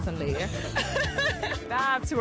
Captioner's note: both laugh